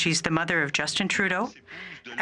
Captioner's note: speaking French